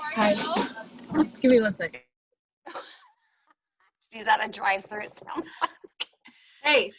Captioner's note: laughter